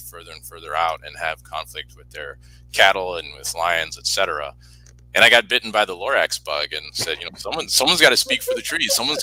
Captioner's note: laughs